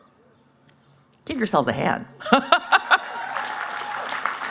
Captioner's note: laughing; applauding